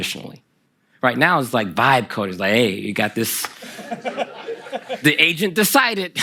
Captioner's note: laughter from the audience